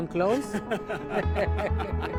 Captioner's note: laughter